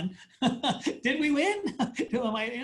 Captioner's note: laughs